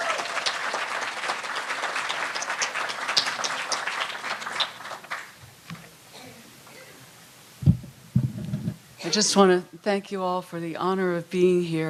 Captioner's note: applause